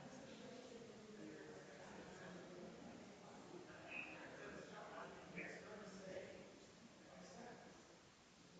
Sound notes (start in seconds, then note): 3.2 people chattering distantly continues